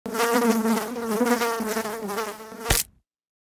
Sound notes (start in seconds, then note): 0.0 fly buzzing; 2.6 fly splatting